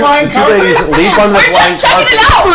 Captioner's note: all laugh